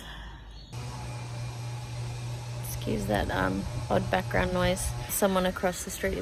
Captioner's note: power tool noise in the background